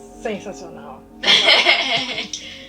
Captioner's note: laugh